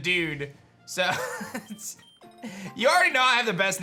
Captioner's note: chuckles